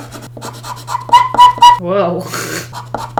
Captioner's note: pencil squeaks loudly